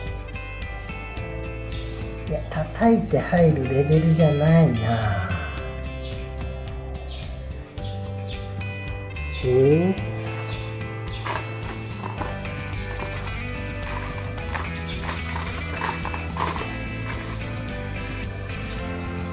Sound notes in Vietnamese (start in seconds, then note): 8.2 cười